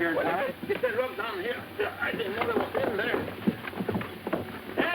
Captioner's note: hooves clopping